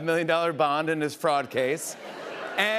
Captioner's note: laughter